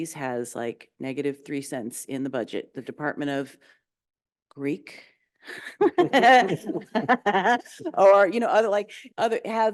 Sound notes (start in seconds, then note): 5.6 chuckling